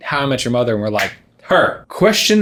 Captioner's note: snapping fingers